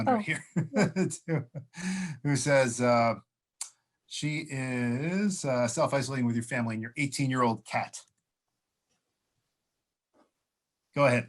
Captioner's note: laughter